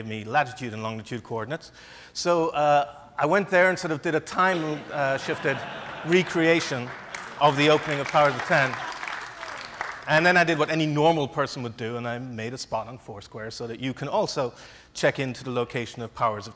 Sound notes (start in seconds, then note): 4.8 laughs; 5.0 audience applauds